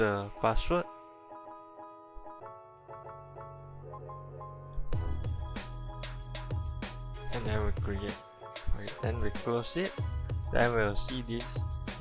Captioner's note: click